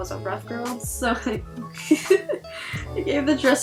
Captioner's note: snicker